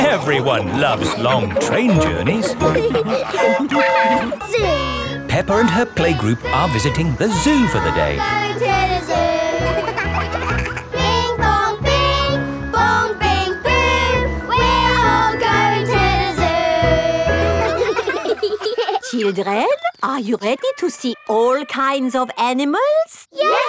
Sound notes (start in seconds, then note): 3.3 train whistle toots; 9.4 giggling; 11.3 all singing; 16.9 children laughing